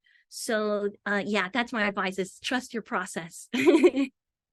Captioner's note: chuckles